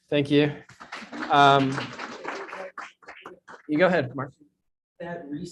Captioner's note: audience clapping